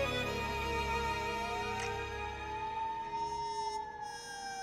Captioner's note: romantic music continues; police sirens approaching